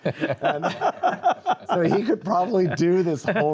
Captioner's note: all laugh